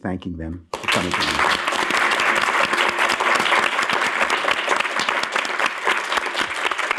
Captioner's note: applause